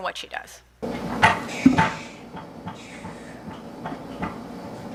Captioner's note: machinery clunking